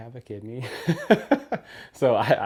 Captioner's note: chuckling